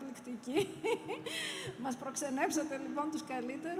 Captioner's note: laughter